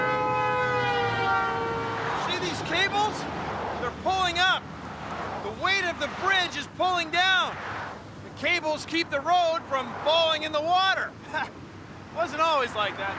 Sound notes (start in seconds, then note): 0.0 <i> honking</i>